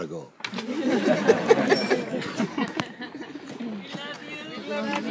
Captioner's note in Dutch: gelach